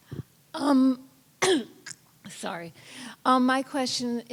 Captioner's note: coughs